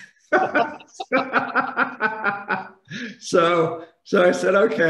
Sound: laughing

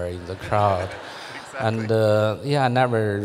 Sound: laughs

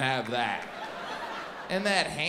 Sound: audience laughs

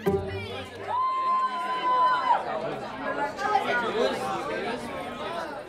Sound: group cheering and buzzing

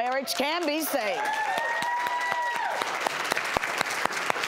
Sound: applause

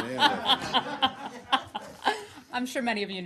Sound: laughter

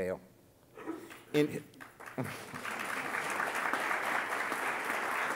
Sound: audience clapping

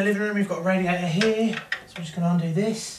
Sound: knock of key against radiator

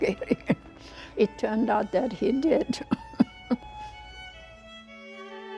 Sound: laughing; laughing; somber violin music

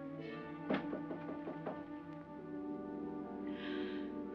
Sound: knocking on door; ominous music

